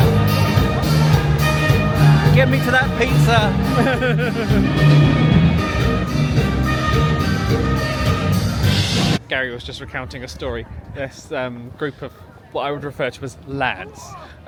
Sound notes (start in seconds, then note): 0.1 uptempo music; 3.3 laughing